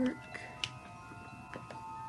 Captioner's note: snap